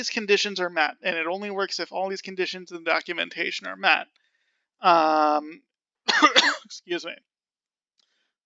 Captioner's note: coughing